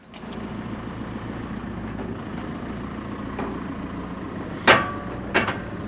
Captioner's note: forklift rumbles; metal clangs